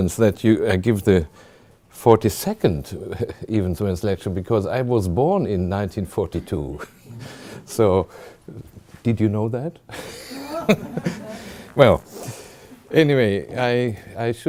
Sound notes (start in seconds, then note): 6.7 chuckling; 10.0 chuckling and gesturing towards the audience; 10.0 audience laughs